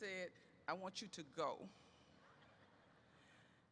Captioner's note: laughter erupts